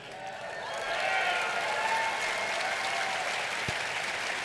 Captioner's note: audience applauding